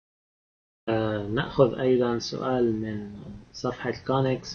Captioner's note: speaking Arabic